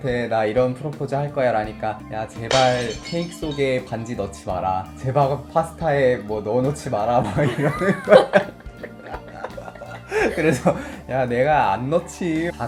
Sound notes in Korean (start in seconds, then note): 7.2 웃음